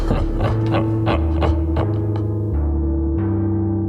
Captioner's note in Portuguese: risada maléfica